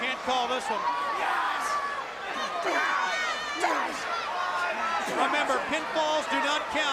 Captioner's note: crowd cheering